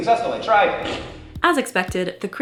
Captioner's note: failure noise